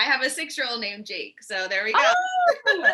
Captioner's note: laughing